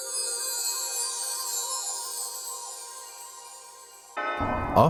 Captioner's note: bells chiming